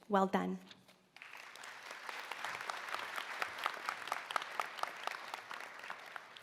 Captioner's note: applause